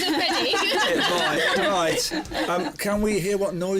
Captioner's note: laughs